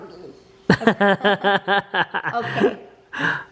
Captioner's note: laughs